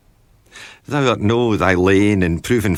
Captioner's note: thick Scottish Brogue accent